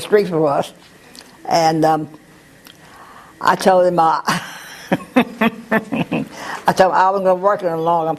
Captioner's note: laugh